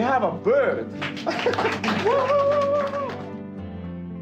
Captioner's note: cheering